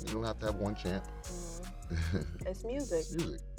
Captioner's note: chuckles softly